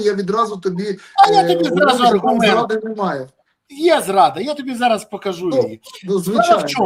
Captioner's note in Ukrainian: сміх